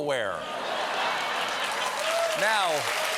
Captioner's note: laughter; cheers and applause